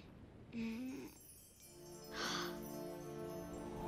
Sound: moaning; gasping

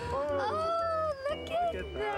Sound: chuckling

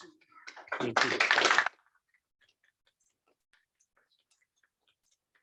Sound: applause

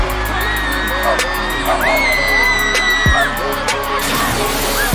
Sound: audience screams in bliss; down disastrous dog barks

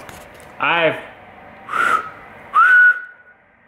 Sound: whistles

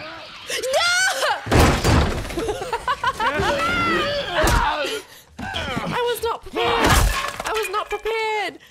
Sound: laugh

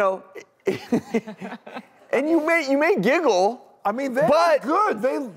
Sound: laughs

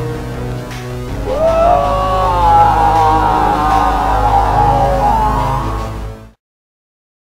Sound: Doc Jarate screams in despair

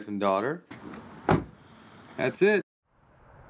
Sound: car door slamming

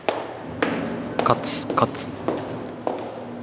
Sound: step step step

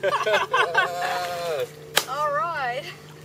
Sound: laughter

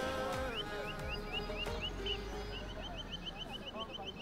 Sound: birds chirping

